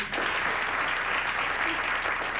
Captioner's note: Applaudissements